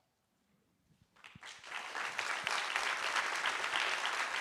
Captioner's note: applause